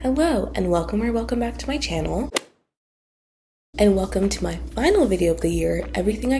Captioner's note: golf hit sound effect